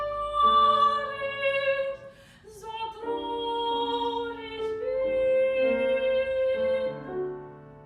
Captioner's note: A big, strong inhale